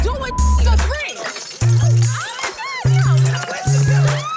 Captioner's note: screams